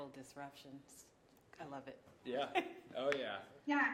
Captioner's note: chuckling